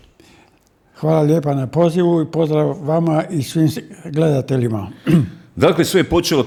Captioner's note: coughs